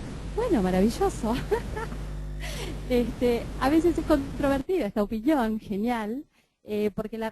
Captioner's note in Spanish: risas